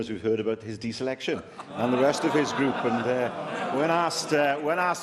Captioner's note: laughter